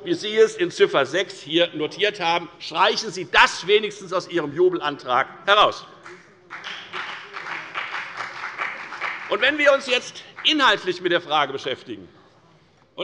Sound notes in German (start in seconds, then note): 6.4 Beifall bei der FDP